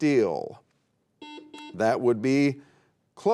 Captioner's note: buzzer beeping